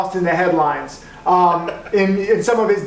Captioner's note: laughs